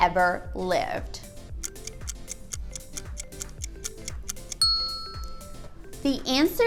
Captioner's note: ding; timer ticking